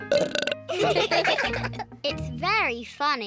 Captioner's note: burps; all laugh